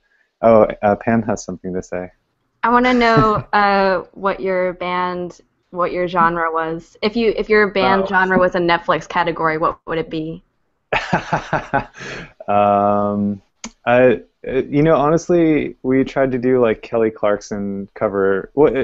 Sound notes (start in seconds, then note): 10.9 laughter